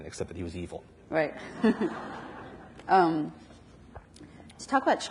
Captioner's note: audience laughs; laughs